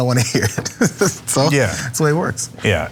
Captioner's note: laugh